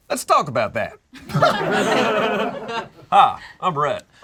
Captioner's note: group laughs